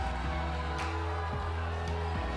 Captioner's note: crowd cheering